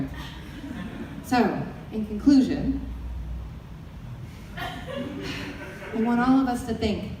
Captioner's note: audience laughter; audience laughter